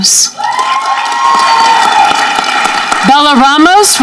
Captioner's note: audience cheering